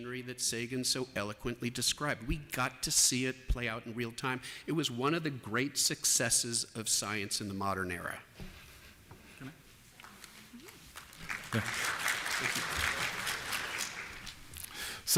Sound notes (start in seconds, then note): 10.9 applause